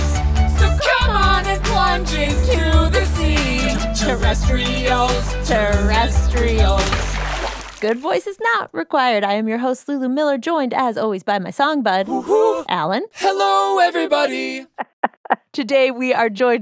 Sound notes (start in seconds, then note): 13.2 laughs in response; 13.7 using Autotune